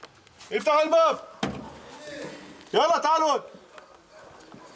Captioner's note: Arabic spoken audio